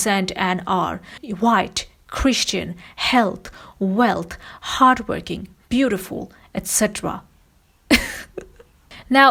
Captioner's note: laughs